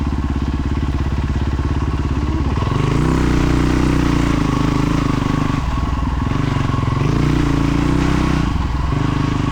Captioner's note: engine revving